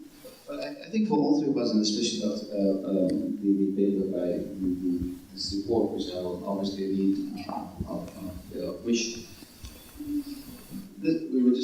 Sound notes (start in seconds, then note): 3.0 microphone muffles speech